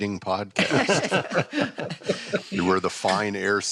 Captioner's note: laughter